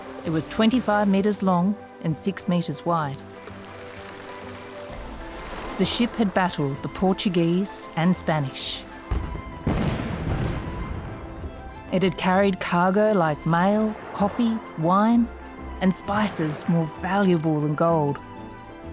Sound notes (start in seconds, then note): 9.0 cannons booming; 11.9 ship creaking